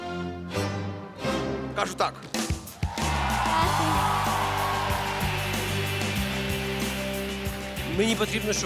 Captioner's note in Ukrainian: оплески